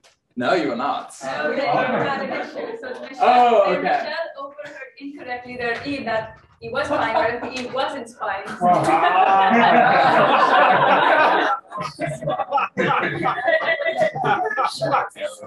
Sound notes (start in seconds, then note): 8.3 room laughs